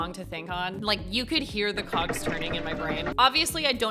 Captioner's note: cogs turning